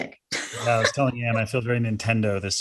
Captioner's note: laughs